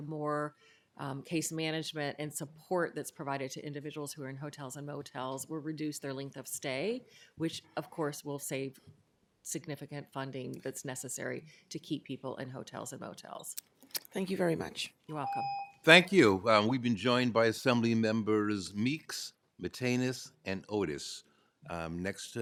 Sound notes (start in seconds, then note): 15.2 ringing bell